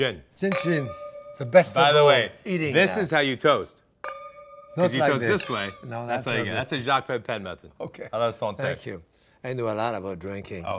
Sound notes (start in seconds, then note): 4.0 glasses clink